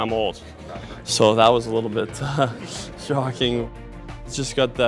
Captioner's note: laughs